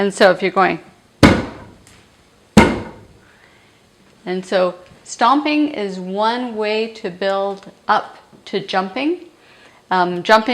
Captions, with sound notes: And so if you're going [stomping] And so stomping is one way to build up to jumping.